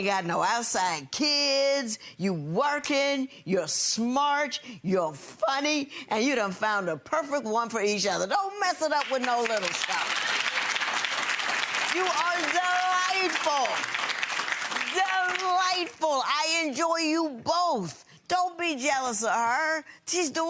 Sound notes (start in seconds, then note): 10.8 gallery applauds